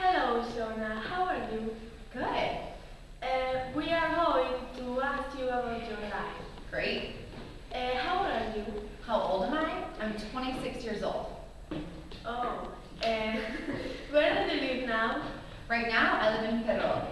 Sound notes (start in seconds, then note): 13.3 giggle